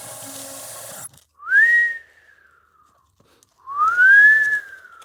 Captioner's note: whistling wind-like sounds